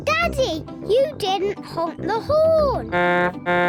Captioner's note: honks horn